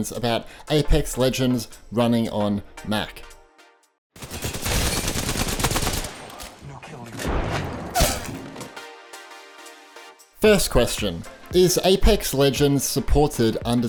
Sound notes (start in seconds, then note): 4.2 guns firing; 8.7 upbeat music